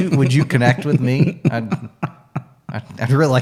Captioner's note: laughing